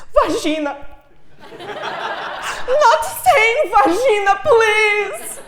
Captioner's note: laugh